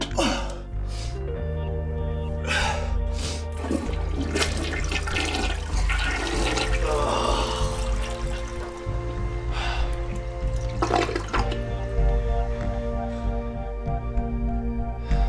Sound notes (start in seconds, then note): 0.1 Drew groans; 2.4 Drew sighs; 3.5 toilet flushing; 6.8 Drew groans; 9.9 sighing over dramatic instrumental rock music